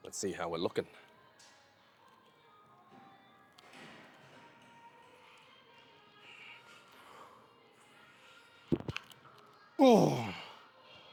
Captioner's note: grunts